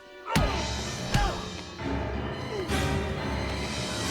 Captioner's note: Ryan shouts